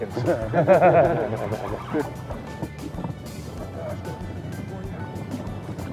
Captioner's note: laughter